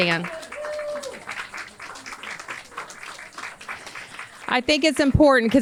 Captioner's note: audience cheers and applauds